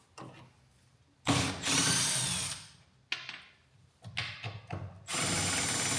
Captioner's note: electric screwdriver whirs